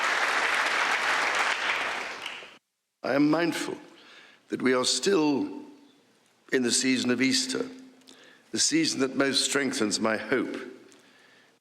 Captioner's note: applause